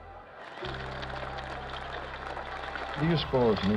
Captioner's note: cheers and applause